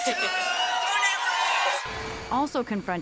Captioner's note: cheering and applause